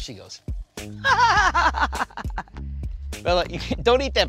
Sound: Rachael laughs

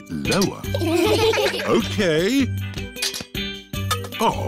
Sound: laughter

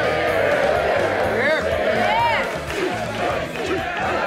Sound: cheering

